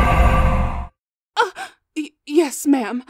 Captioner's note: energy surges with demonic whispers and evil crackles; gasps